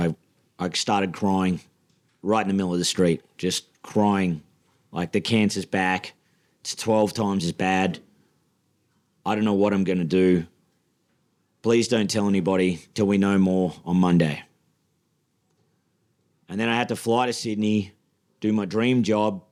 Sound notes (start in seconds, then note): none